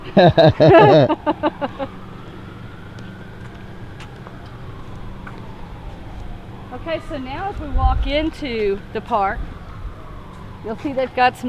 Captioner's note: laughs